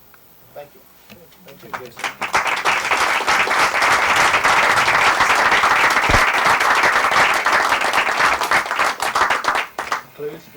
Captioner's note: applause